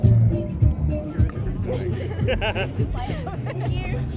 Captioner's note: upbeat music; people chattering